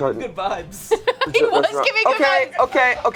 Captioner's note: laughs